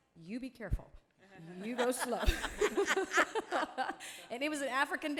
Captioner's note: audience laughing